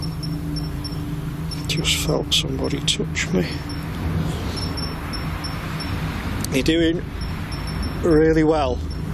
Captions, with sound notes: Just felt somebody touch me. (device beeps) You're doing really well.